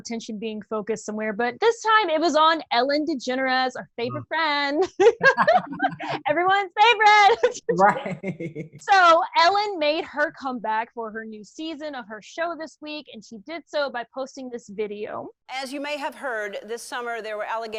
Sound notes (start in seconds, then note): 4.8 laughter; 7.4 laughs